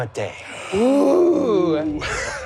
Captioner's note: gasping